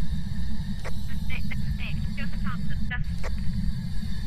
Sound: over Radio

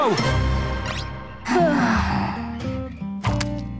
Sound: sighing

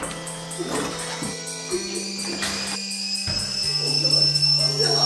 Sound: high pitched noise

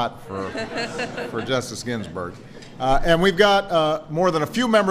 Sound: laughter

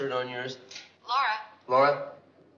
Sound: on phone

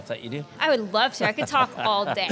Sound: laughing

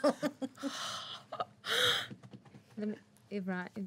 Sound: girls laughing

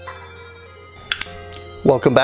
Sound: watch clicks

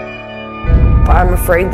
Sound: thunder

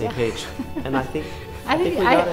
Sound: laughs

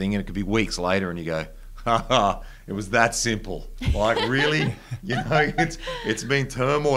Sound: laughs

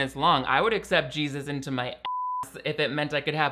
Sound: beep

